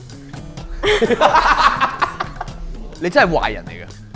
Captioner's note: laughter